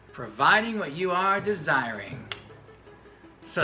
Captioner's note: clicks